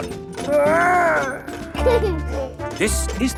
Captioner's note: giggles